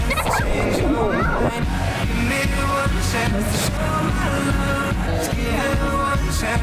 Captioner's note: upbeat pop music; girl giggling; water blubbering